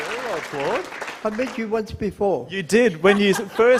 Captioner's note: applause